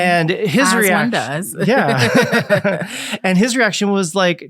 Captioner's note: laughs